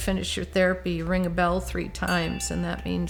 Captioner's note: bell ringing